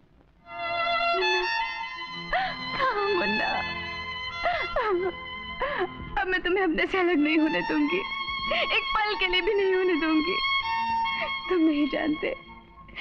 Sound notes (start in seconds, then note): 4.3 sobbing